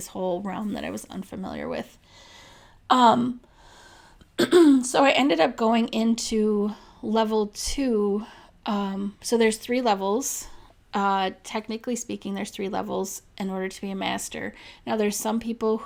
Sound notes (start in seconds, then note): 4.4 clears throat